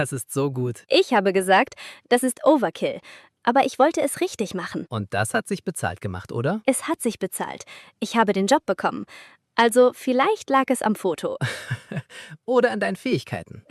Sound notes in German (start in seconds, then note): 11.4 gelächter